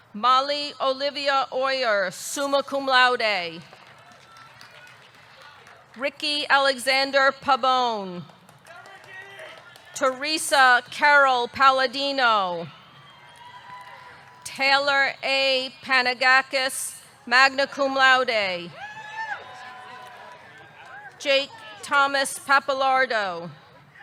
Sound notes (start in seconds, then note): 3.6 audience clapping; 12.7 audience cheering; 18.7 audience cheering